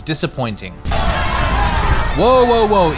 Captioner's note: angry Mob Yelling